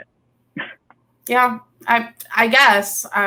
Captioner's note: chuckles